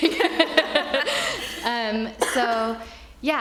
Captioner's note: attendees laughing